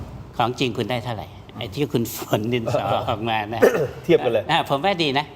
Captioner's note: clears throat